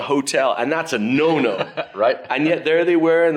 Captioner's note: laughs